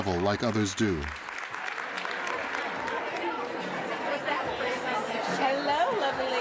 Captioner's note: audience applauding; chattering